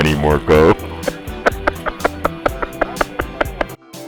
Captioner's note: laughing